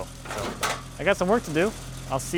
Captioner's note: metal clanking